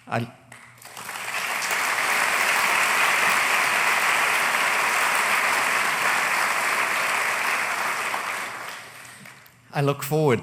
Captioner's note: applause